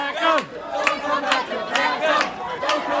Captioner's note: crowd chanting & clapping